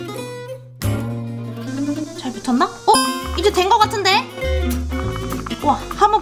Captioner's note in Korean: 째깍째깍째깍